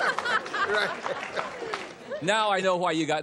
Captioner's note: laughter